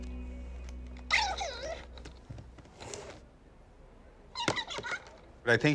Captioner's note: toy babbling